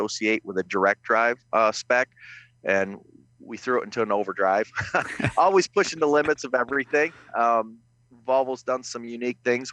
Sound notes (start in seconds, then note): 4.6 laughs